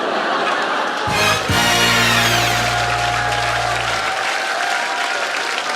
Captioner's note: laughter, applause, third minute win